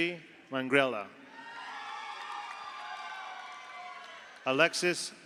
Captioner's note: audience cheers; audience applauds